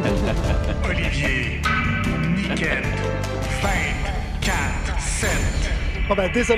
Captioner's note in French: voix enregistrée